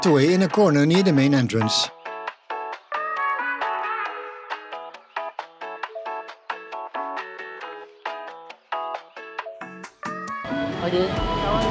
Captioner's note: foreign language